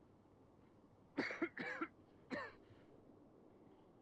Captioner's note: coughs